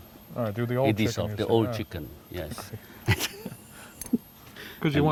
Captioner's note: laughs